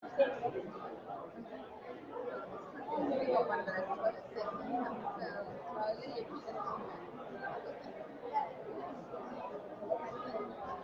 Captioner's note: background noise of people talking